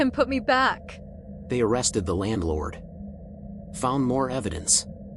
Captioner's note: leans in, urgent tone